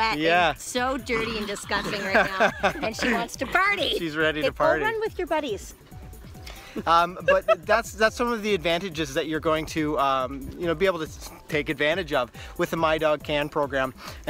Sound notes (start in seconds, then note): 1.0 laughs; 6.7 laughs